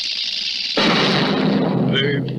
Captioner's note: crash!